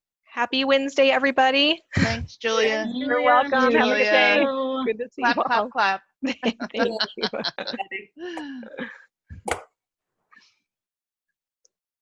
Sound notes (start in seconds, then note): 2.7 student rumbles; 6.3 crowed laughing